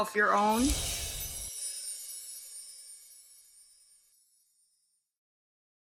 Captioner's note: magic spell sound plays